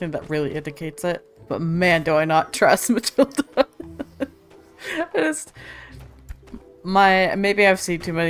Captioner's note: laughs